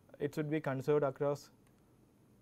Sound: click

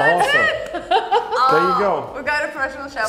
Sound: laughs

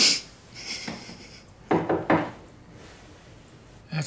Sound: knocking

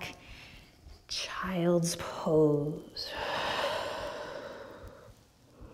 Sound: deep breath

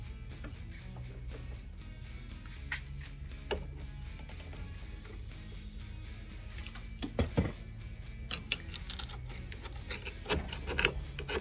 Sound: metal scaping

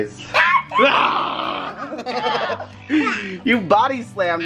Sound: giggling

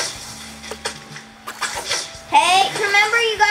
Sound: fishing lure splashing into water

